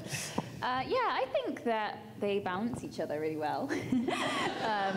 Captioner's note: laughs